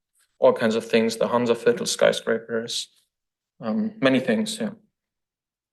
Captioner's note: foreign language